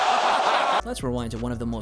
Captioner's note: crowd